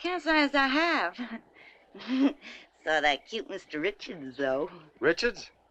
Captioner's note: giggles